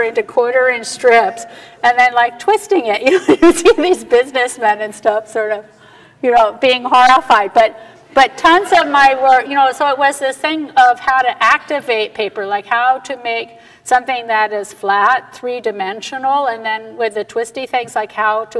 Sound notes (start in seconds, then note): 3.1 laughs; 7.1 audience laughter